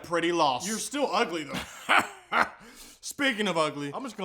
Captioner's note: even weirder laughing